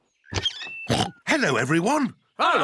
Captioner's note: oinks